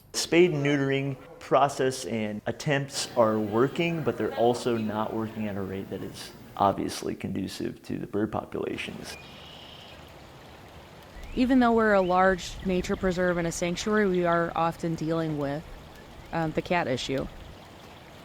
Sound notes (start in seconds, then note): 8.8 bird chirping; 18.0 water trickling